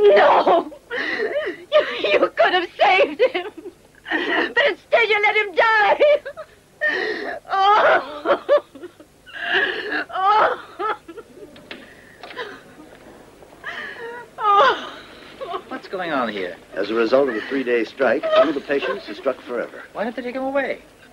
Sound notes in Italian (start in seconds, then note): 6.8 piangendo